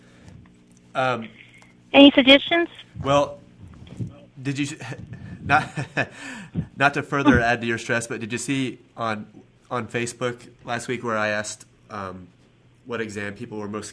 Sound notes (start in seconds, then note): 4.6 chuckling